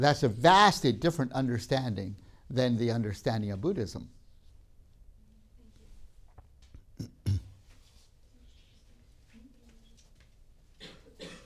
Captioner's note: clears throat